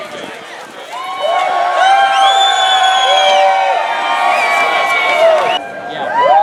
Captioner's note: cheering